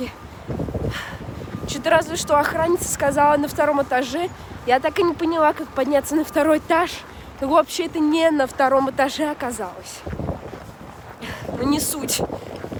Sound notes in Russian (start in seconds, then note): 0.9 вздох